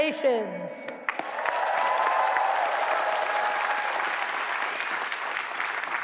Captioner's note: cheering